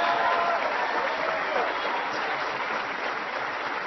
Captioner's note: applause